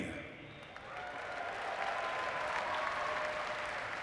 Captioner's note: audience cheering